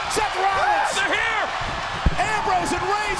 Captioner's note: audience cheers